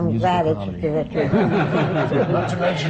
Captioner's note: laughter